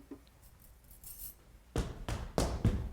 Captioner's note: bracelet clanging; feet stomping